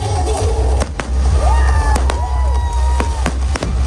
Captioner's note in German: Jubel